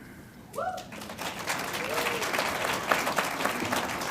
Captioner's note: audience applauds